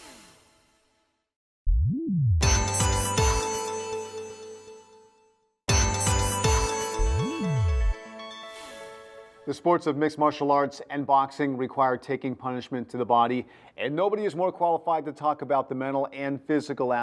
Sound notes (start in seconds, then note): 4.0 whisper; 6.8 whisper